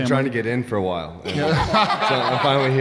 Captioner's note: laughing